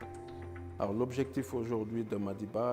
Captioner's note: speaking french